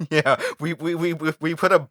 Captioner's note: laughter